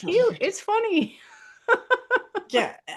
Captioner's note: laughs